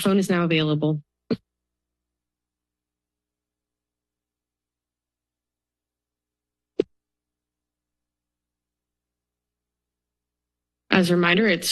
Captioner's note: silence